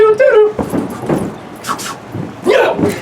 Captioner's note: footsteps thumping